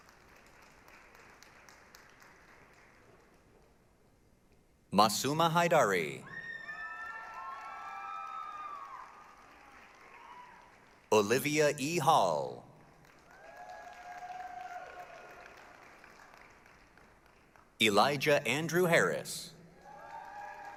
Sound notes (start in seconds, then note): 0.0 applause; 6.3 applause, cheering; 12.8 applause, cheering; 19.7 applause, cheering